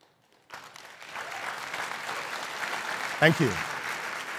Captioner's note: crowd applauding